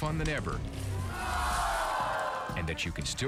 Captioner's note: audience groans